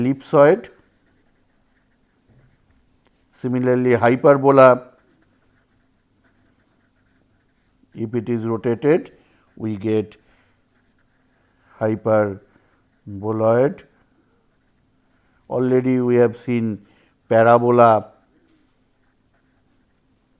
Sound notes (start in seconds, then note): 8.5 thermal noise